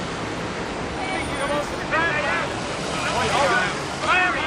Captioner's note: all shouting